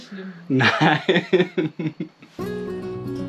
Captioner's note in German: Lachen